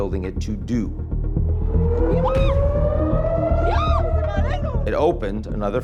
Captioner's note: bystander shouting; siren wailing